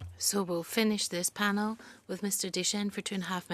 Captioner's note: speaking in French